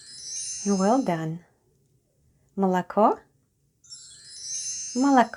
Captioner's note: chime sound